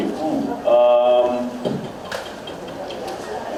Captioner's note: makes weird noises